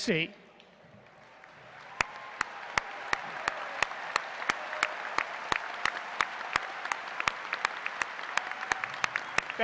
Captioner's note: applause